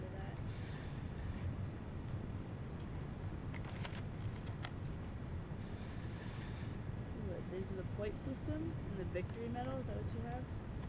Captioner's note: paper shuffling, book opening